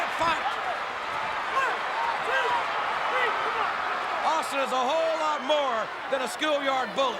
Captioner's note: applause